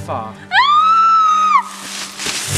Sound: scream

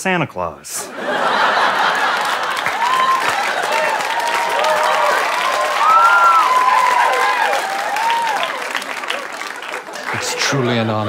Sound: audience laughs and cheers

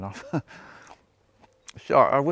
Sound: chuckles

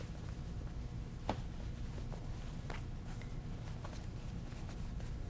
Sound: soft thudding

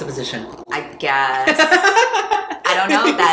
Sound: laughs

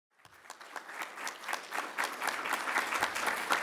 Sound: audience applauds

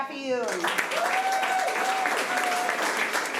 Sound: applause

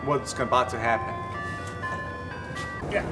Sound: ice cream truck

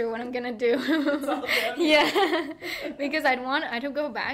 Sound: laughing

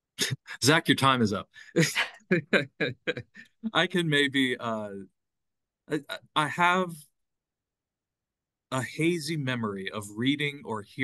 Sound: laughing

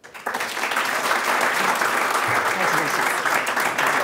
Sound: crowd applauding

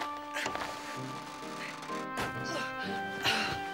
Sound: grunting

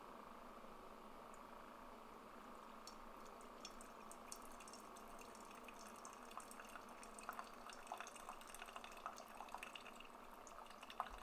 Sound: coffee brewing

